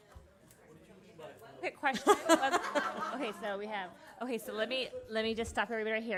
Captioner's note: laughter